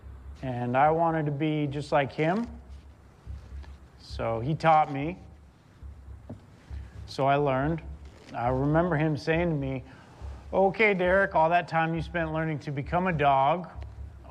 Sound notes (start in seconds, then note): none